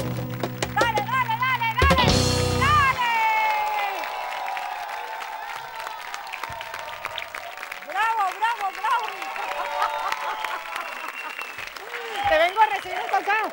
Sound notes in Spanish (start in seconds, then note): 3.5 Ovación; 8.3 Ríe